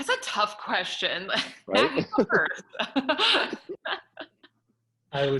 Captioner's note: both laughs